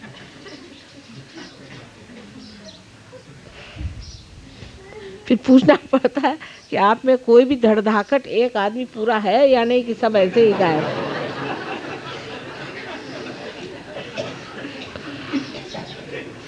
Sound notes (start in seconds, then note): 10.1 laugh